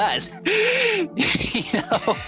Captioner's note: both laugh